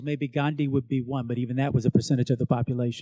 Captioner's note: none